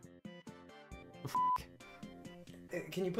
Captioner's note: beeps